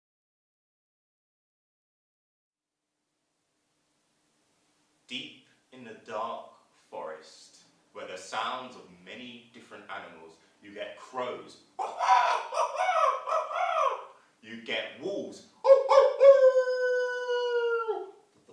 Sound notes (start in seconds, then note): 11.8 sound of crow; 15.6 sound of wolves howling